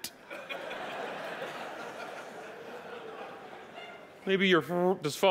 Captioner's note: audience laughing